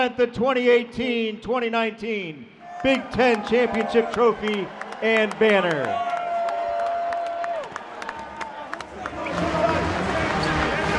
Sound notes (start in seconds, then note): 5.7 audience applause